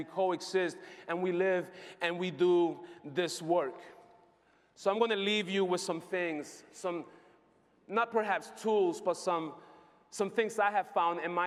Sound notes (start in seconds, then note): none